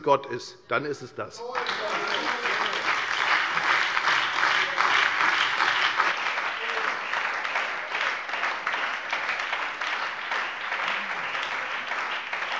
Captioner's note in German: Beifall bei der FDP und der SPD